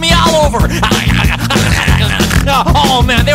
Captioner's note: making frenzied weasel chewing noises